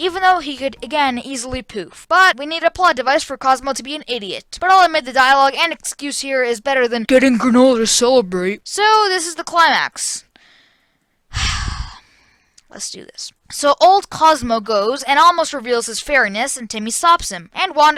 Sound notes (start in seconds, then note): 10.4 deep breath